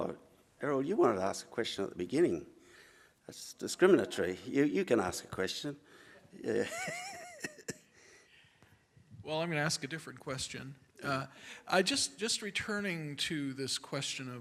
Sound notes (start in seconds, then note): 4.1 sarcasm; 6.5 laughter